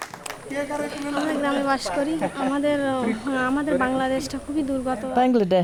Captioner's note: foreign language